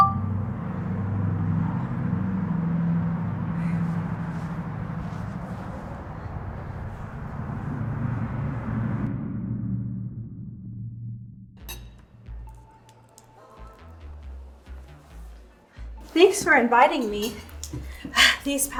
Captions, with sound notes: (phone beeping) (air whooshing) (utensils clinking) Thanks for inviting me.